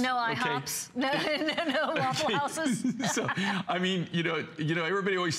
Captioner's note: laughter